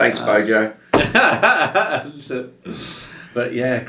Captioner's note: laughs